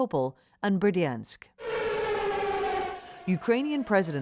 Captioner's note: siren wailing